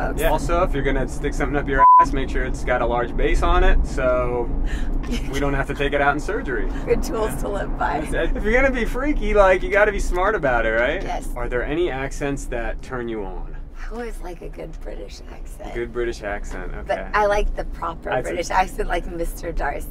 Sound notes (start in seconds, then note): 1.8 beep; 5.0 laughing